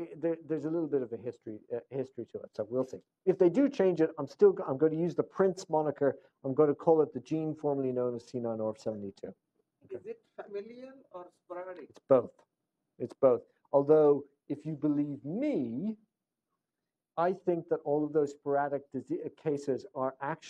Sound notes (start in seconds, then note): 10.2 off microphone